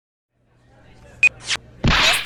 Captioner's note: beep